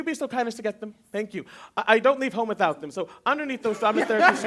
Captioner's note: laughter